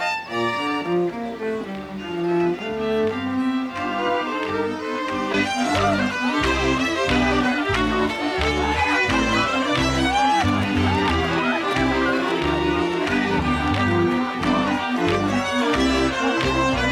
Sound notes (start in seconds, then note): 6.3 lively music; 6.3 people laughing